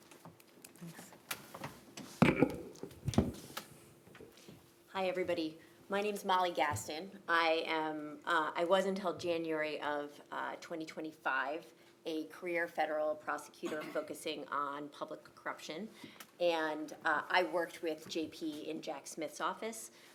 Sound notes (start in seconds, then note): 0.7 papers rustling; 2.2 coughs; 2.8 liquid clinking; 2.8 papers rustling